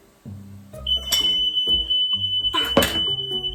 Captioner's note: fire alarm